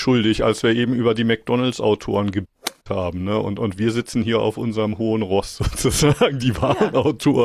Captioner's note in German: gelächter